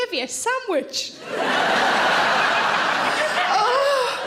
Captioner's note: audience laughs